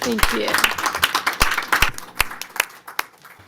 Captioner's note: applause